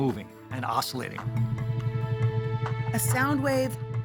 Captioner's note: vibrating